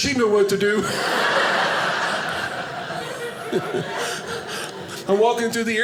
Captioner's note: audience laughing